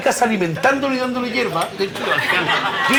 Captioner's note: laughs